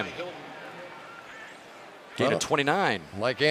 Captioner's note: pa announcement